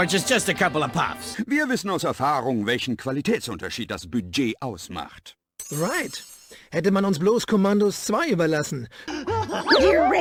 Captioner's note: Mort & Phil speaking in German